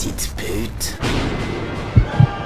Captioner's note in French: Tonnerre